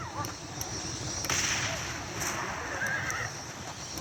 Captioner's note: sounds of dynamite lighting up and throwing at zombie coyotes; sounds of dynamite exploding; sounds of dynamite lighting up and changing weapons; Sounds of molotov cocktail and changing for the Tomahawks